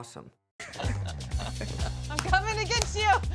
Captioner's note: laughing